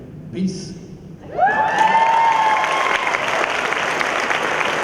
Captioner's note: cheering